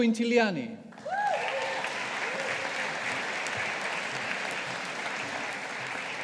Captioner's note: audience applauding